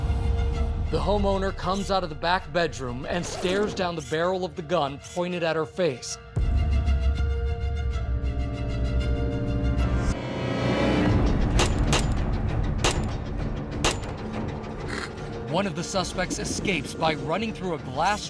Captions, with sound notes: The homeowner comes out of the back bedroom and stares down the barrel of the gun pointed at her face. [gun firing] One of the suspects escapes by running through a glass door